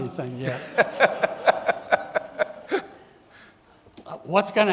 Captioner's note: audience laughing